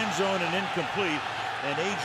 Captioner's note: crowd groans